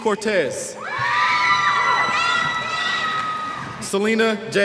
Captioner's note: cheers